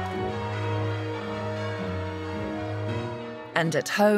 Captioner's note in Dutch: klokken luiden